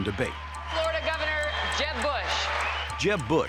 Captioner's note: cheers and applause